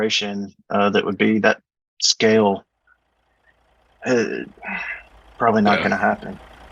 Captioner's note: sighs